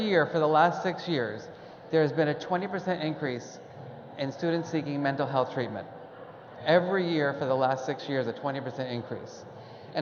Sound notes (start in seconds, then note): none